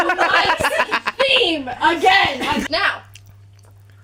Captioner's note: laughter